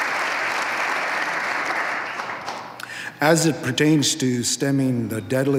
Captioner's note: applause